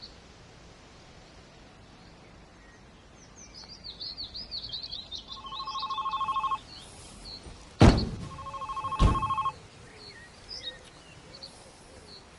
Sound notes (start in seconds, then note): 1.5 phone ringing